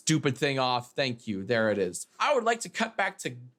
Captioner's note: none